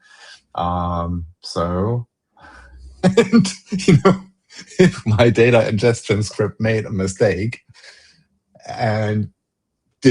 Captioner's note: laughter